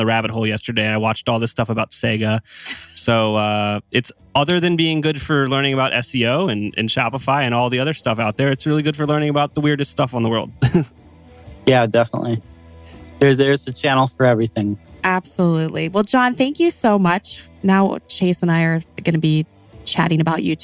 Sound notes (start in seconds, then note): 10.2 laughs